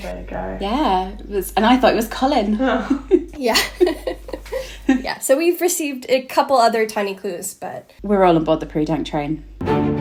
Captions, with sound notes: -vYeah, and I thought it was Colin (laughing) - Yeah (laughing) Yeah, so we've received a couple other tiny clues but... We're all on board the Prudank train. (upbeat music)